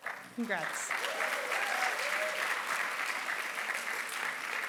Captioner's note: applause